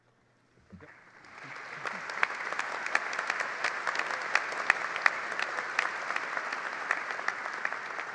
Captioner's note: applause